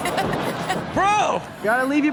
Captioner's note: audience laughing